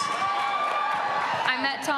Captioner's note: cheering and applause